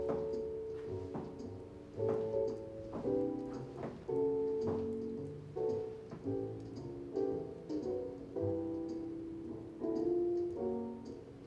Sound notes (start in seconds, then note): none